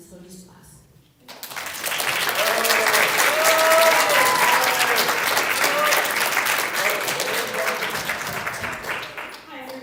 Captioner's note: applause